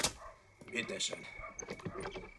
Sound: in German

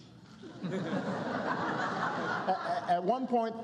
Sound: laughter

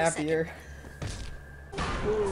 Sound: crunch

